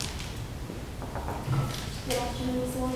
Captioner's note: knocks